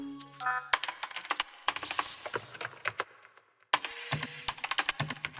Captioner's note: typing on keyboard